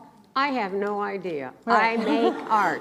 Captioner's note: laughs